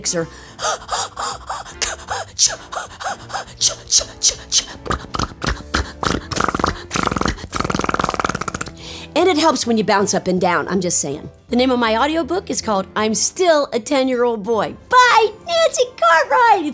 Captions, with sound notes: (Nancy breathes excitedly) (Nancy imitates motor sputtering) And it helps when you bounce up and down. I'm just saying. The name of my audio book is called, "I'm Still a 10-Year-Old Boy," by Nancy Cartwright!